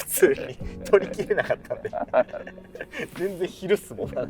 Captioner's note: laughing